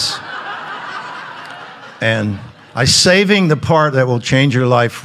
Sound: audience laughing

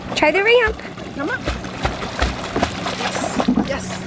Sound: water splashing

